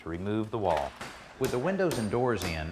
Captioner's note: hammering